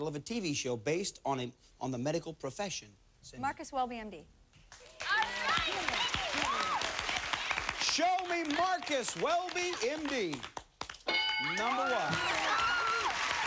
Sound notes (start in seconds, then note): 4.8 cheers and applause